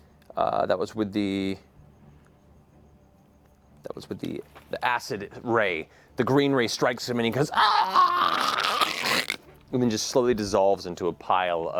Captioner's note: death rattle